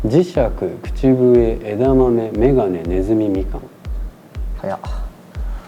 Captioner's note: whistle